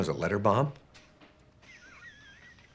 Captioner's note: chuckling